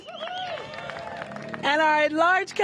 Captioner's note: applause